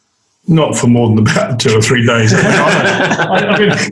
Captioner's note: all laugh